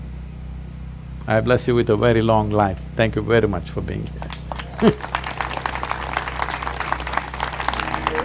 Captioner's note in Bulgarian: Смях; Аплодисменти